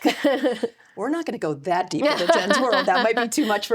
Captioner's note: laughs